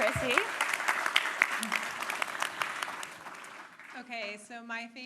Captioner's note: applause